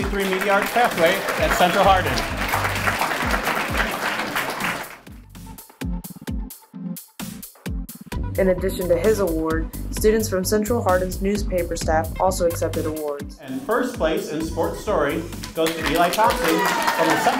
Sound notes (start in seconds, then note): 2.9 audience clapping; 5.7 upbeat music